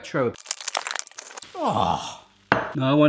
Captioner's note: unwrapping